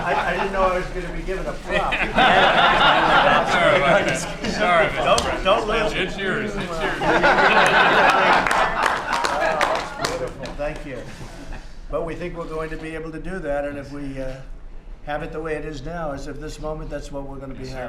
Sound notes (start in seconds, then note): 1.7 laughter; 6.5 laughter